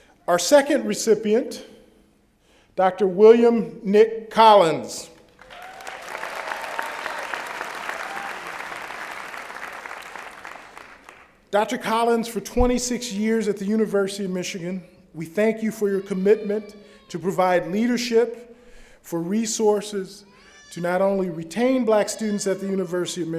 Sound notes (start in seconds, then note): 5.2 applause